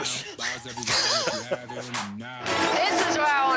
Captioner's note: laughter